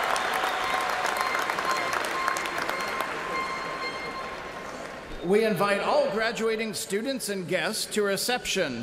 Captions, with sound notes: TO OUR READER, PROFESSOR JOHN STRADA. CONGRATULATIONS, CLASS OF 2018! [ CHEERS AND APPLAUSE ]